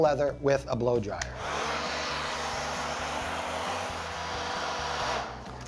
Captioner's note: blow-dryer whooshing